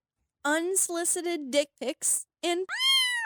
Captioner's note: cat meows